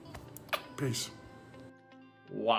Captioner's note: smooches